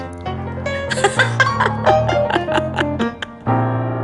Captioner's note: laughs